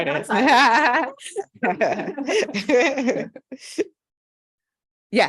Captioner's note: laughter